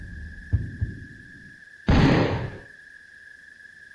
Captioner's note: gunshot